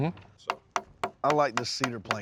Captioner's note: tapping